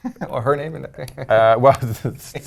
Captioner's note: laugh